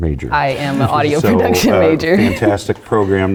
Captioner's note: laugh